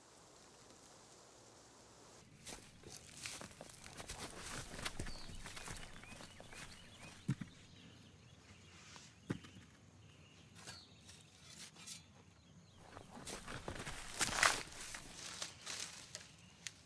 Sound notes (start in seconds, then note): 1.4 birds chirping